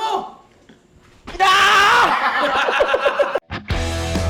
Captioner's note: laughter